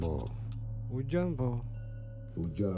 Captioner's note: man speaking native language in low-pitched voice; man speaking native language in high-pitched voice; man speaking native language in low-pitched voice